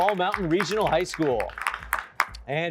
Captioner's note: applause